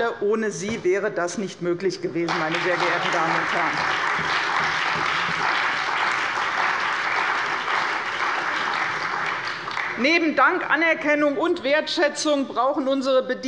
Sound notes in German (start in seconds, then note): 2.2 Beifall bei der CDU und dem BÜNDNIS 90/DIE GRÜNEN